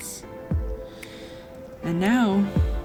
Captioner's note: sighs with insight